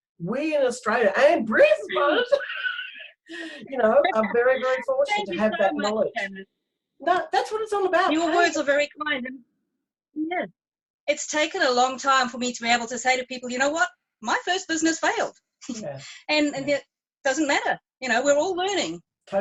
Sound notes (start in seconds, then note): 1.1 laughs; 15.8 chuckles